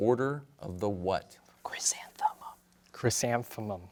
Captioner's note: whispers